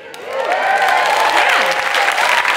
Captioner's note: audience cheering; audience clapping